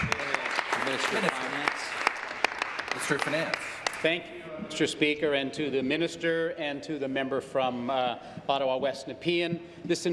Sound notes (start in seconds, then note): 1.8 applause